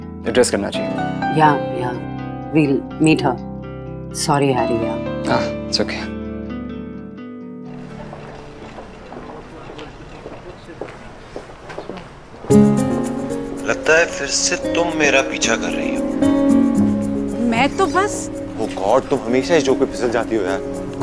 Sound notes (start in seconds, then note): 7.7 trolly dragging; 10.2 foot steps